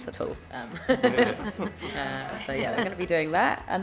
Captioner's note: all laughing